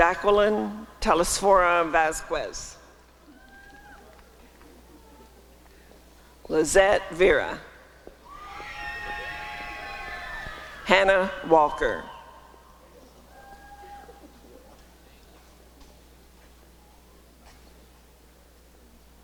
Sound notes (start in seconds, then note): 3.7 applause and cheering; 8.4 applause and cheering; 11.9 applause and cheering